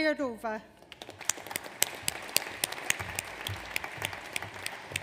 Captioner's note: audience applauds